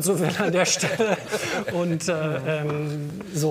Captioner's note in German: Lachen